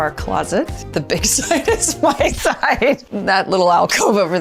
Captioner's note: laughs